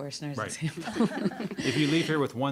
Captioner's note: all laughing